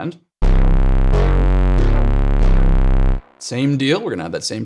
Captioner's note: electronic tones sounding